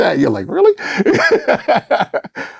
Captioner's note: laughing